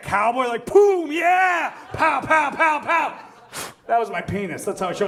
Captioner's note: blows